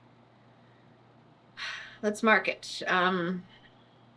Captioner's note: sighs